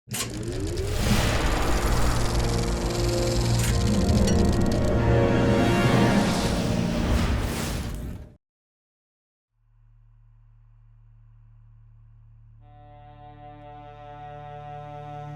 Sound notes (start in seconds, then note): 1.0 air whooshing; 1.9 film reeling clicking; 12.6 somber music